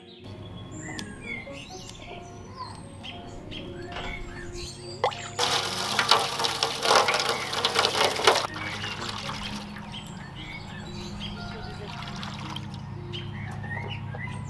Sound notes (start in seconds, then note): 0.2 snip, snip; 3.8 water splashes